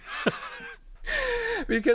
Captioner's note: laughs